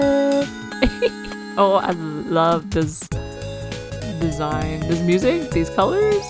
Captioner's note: laughs